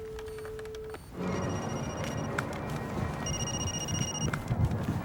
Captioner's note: phone rings